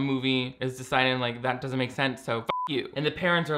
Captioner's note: beep